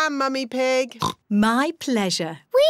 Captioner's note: oinks